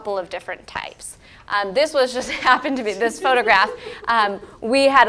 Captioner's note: laugh